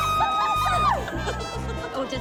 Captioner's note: screams